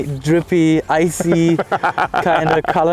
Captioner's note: laughing